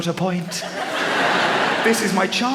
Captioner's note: laughter